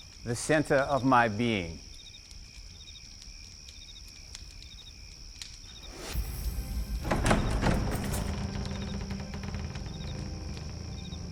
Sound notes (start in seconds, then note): 5.8 door creaking; 5.8 inquisitive music